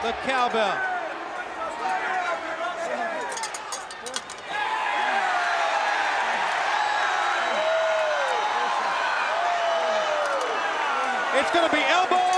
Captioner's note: applause; applause